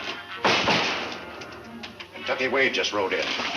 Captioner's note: door bang